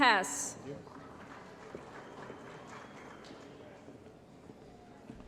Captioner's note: applause